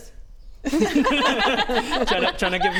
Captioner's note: laughs